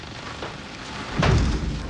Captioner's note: thud